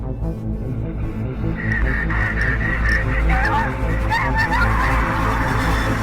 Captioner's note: panicked breathing